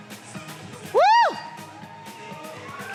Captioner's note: cheering; upbeat music